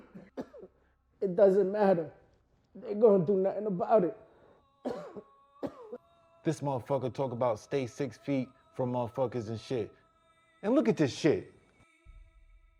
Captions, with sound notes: - It doesn't matter. They ain't gonna do nothing about it. (coughing) - This motherfucker talking about stay six feet from motherfuckers and shit. Man, look at this shit!